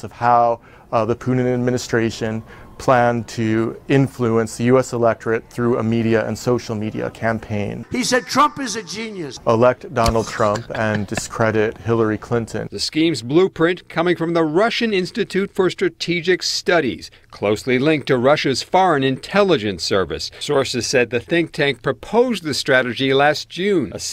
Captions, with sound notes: how the Clinton administration planned to influence the US electorate through a media and social media campaign. - He said, "Trump is a genius!" - Elect Donald Trump and discredit Hillary Clinton. - [Voiceover] The scheme's blueprint coming from the Russian Institute for Strategic Studies, closely linked to Russia's foreign intelligence service. Sources said the think tank proposed the strategy last June.